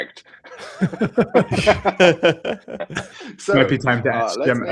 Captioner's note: laughter